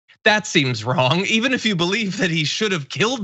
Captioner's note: laugh